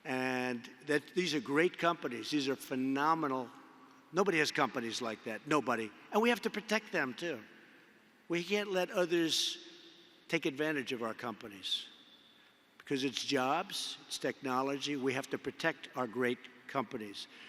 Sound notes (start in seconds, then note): none